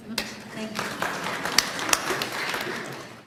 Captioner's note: applause